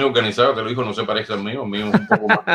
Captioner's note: laughs